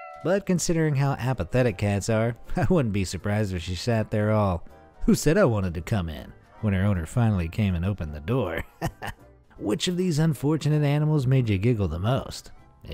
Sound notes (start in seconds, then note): 8.5 chuckles